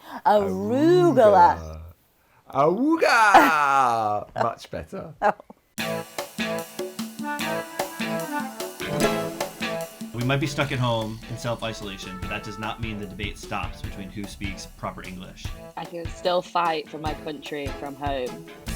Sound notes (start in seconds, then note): 2.9 laughs; 5.9 lively music